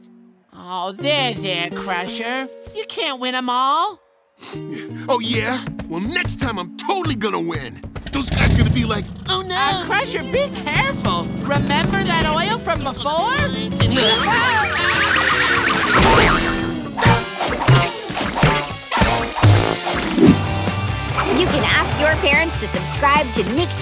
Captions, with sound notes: Aww. There, there, Crusher. You can't win 'em all. [sniffles] Oh, yeah? Well, next time I'm totally going to win! Those guys are gonna be like: - "Oh, no!" - Uh, Crusher, be careful. Remember that oil from before? You can ask your parents to subscribe to Nick Jr.'s